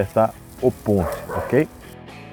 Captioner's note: bark bark